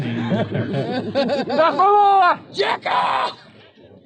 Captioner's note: laughing